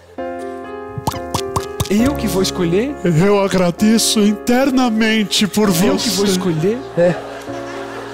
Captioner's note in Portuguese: bolhas